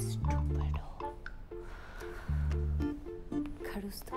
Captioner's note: Inhales